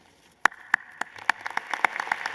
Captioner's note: applause